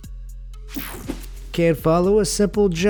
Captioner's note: air whooshing